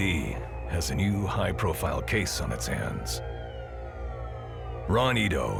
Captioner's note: sirens